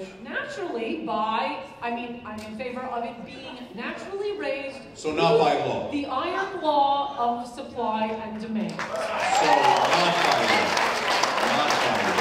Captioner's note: applause